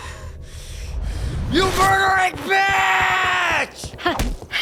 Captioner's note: Subaru Yelling